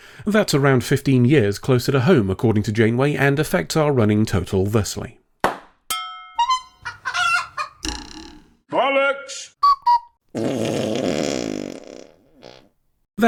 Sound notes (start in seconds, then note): 5.4 pop; 5.9 ding; 6.4 clown honk; 6.4 chicken cluck; 7.8 springboard twang; 7.9 Brian Blessed saying "bollocks"; 9.6 cuckoo whistle; 10.3 long fart